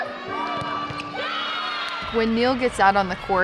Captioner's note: players cheering